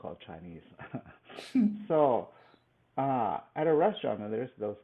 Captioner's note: laughs